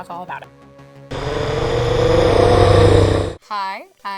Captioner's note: creature growling